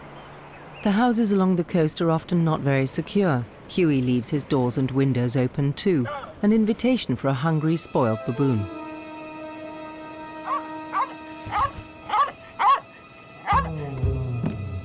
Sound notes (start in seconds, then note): 8.1 ominous music; 12.0 dog barking